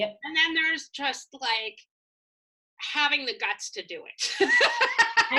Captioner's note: laughs